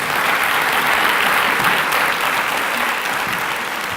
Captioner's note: applause